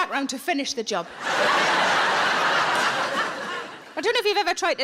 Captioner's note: audience laughing